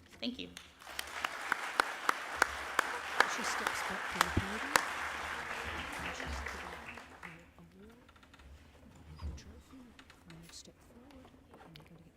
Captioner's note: applause